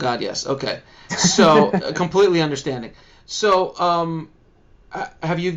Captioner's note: laughs